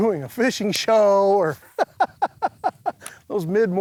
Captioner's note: laughing